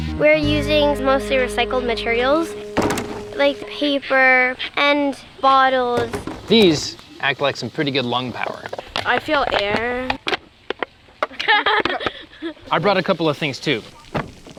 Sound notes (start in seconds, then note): 9.4 plastic bottle crinkling; 11.2 kids laugh